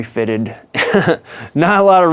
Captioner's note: laughs